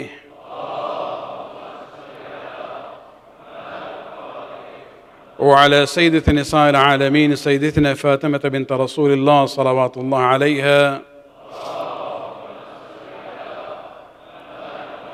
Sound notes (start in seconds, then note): 5.0 arabic